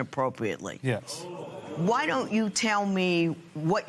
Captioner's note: spectators murmur